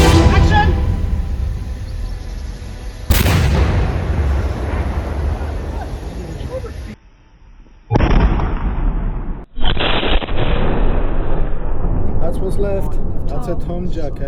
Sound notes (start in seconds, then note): 3.1 explosion bursts and echoes; 7.8 explosion bursts in slow motion; 9.7 explosion bursts in even slower motion